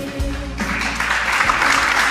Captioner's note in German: Applaus